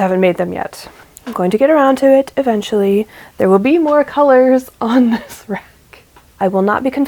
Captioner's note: laughs